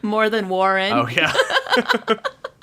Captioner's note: laughs